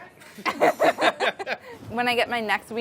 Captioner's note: laughing